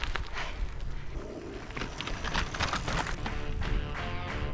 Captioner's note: bike bouncing over track